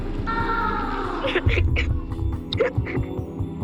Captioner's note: crying